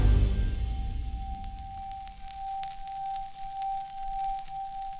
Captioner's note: fire sizzles